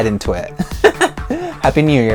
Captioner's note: chuckles